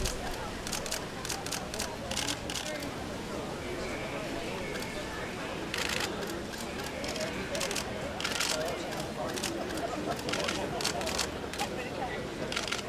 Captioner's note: crowd sounds